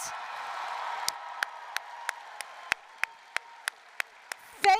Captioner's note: applause, cheering